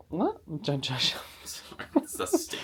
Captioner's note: laughs